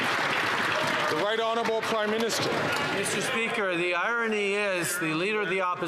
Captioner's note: some Applause